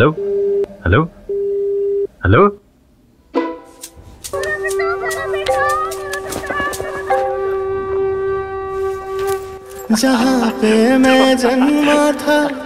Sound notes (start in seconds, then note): 0.3 crowd cheering